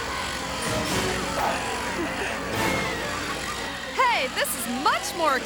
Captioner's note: engine roaring